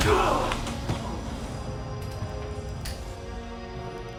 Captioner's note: blow striking